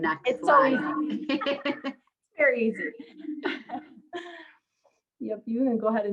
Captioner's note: laughs